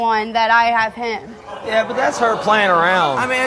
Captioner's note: audience exclaims in disbelief